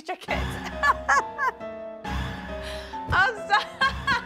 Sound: laughs

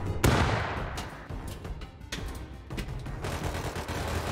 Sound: metallic clanging; gun shots

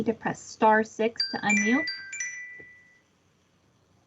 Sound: chime

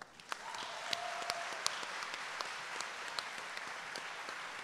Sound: audience applauding

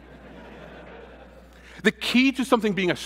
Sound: laughter

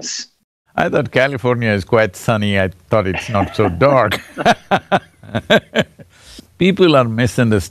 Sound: both Laugh

